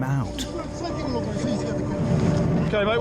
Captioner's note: droning drowns out speaker